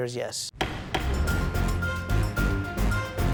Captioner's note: gavel bangs